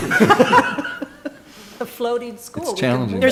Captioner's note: laughing